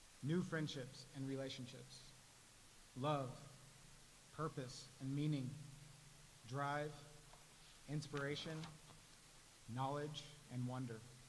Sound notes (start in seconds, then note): none